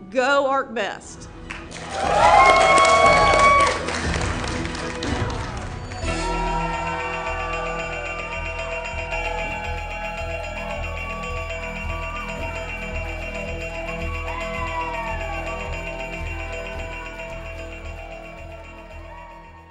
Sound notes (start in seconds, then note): 1.5 applause; 5.8 bell ringing; 5.8 applause